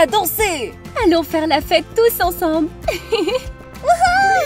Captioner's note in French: rire